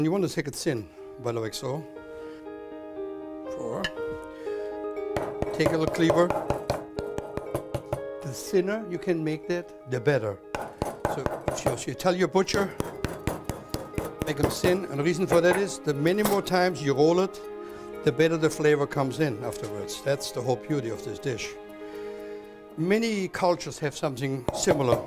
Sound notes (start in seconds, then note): 3.1 knocking sound; 5.2 chopping